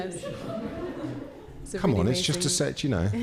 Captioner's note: participants laughing